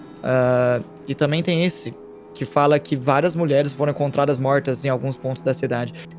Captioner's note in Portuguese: none